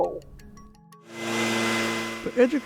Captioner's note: leaf blower humming